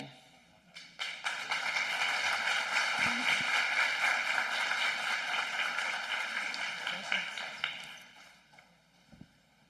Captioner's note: applause